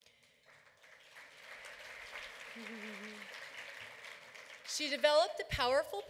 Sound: applause

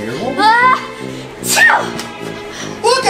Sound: sneezing

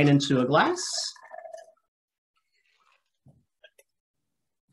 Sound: liquid pouring

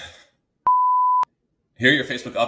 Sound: beep

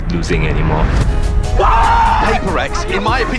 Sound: players cheering

